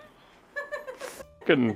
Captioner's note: giggles in background